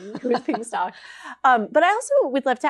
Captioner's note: laughs